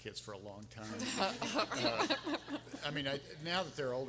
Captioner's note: everyone laughing